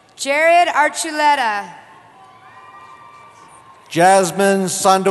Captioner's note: cheering